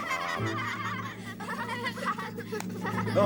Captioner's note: all laughing